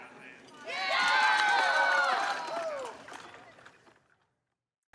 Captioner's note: campers cheering